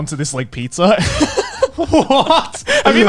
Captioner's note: laughing